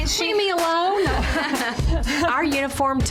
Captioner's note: laughing